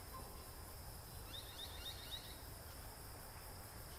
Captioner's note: bird twitters